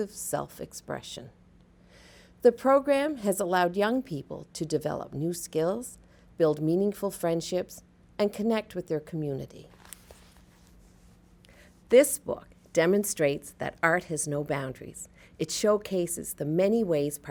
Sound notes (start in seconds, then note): 9.7 pages rustling